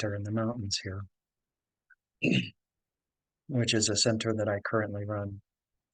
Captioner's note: cough